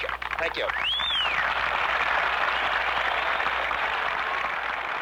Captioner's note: crowd cheers